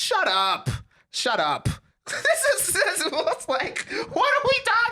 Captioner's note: laughing